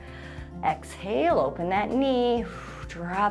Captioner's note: exhales